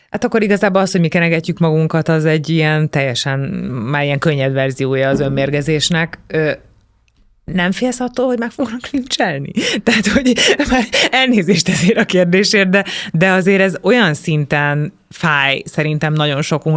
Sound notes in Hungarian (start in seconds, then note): 9.8 nevetés